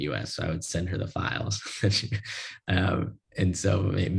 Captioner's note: laugh